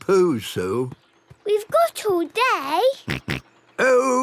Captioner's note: snort